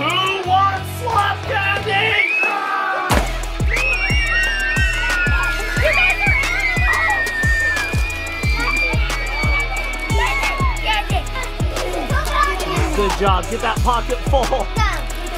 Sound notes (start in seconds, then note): 3.6 kids scream